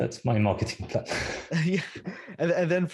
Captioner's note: laughter